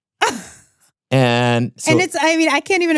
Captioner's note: laughs happily